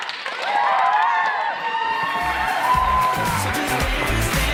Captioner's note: clap, clap; cheering